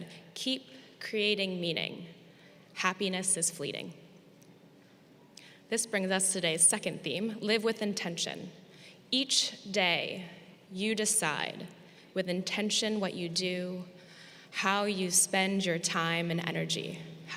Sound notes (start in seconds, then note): none